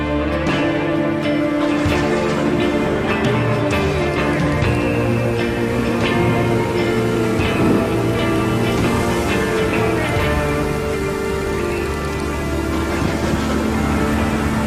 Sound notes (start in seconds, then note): 1.7 thunder crash